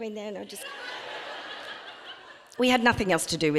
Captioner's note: audience laughing